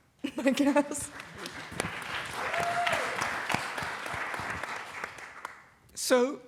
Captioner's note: laughter